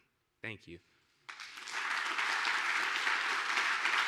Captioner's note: applause